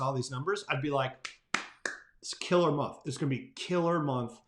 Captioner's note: claps